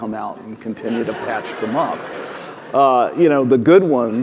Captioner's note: audience laughing